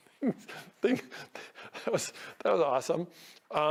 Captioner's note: host in blue laughing